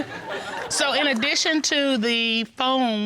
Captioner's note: chuckles